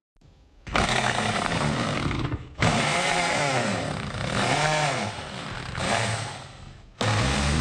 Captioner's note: noise of drill